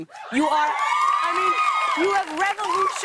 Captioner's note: cheers